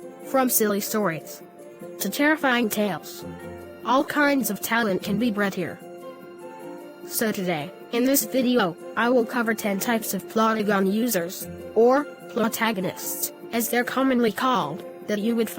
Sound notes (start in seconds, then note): none